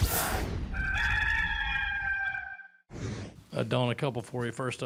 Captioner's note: rooster crows